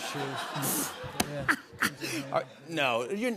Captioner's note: laughter